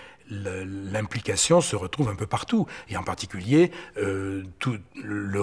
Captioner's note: French spoken audio